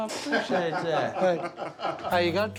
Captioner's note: laughter